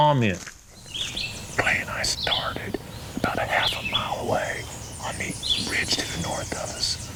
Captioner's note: whispering